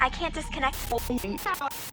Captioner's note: glitching and beeps